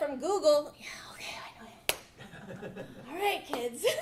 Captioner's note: audience laughing